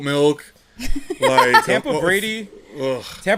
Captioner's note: laughs